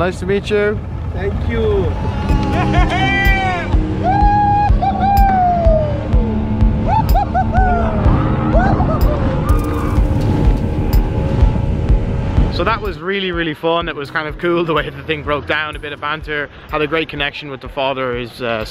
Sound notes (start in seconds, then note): 1.7 cheering; 3.9 boat engine roaring